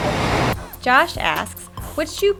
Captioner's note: hip-hop music; voiceover